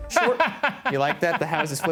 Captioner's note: laughs